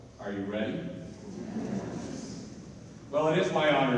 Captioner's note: audience agrees